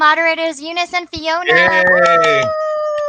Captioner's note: cheers